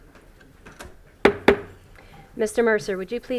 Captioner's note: gavel hitting dais